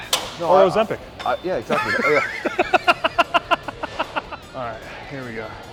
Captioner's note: Ethan laughing